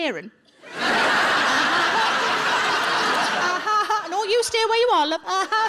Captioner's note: audience laughing